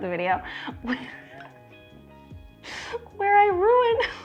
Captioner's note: laughs